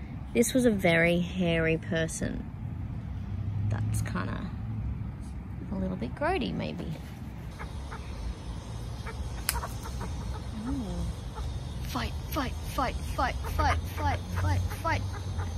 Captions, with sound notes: This was a very hairy person. That's kinda... a little bit grody, maybe. [birds vocalise sternly at each other and one snaps its beak loudly] Oooh! Fight! Fight! Fight! Fight! Fight! Fight! Fight! Fight!